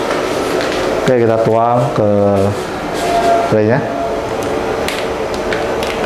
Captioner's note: powder package sound